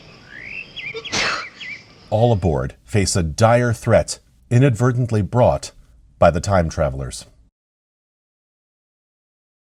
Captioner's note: sneeze